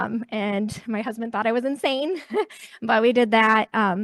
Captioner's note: chuckles